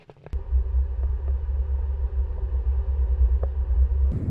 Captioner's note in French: accélération